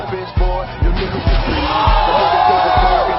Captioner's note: cheering loudly